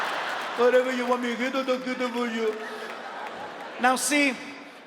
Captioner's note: audience laughs; speaking in foreign language